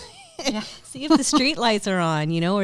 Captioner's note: chuckles; laughs loudly